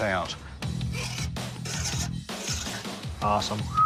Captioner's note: scraping on blade; whistles